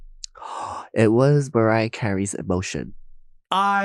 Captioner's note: gasping